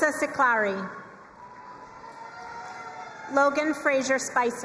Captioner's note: crowd cheering and applauding